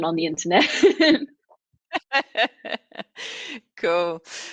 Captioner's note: laughter